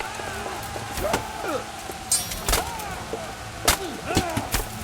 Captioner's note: knights shout